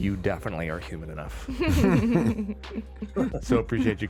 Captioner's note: all laughing